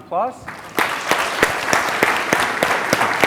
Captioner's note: clapping